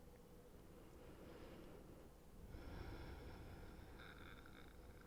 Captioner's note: soft air whooshing